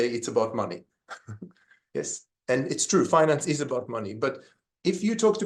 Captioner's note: laughs